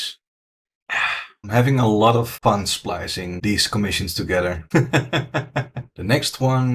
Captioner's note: laughs